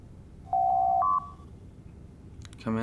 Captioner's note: door Chime